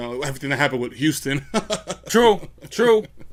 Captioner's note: laughs